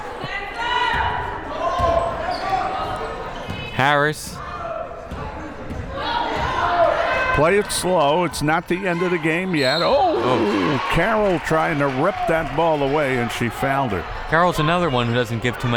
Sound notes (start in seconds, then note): 9.6 whistle